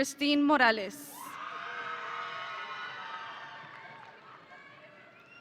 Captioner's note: audience cheering